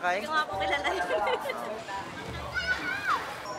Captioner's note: chuckles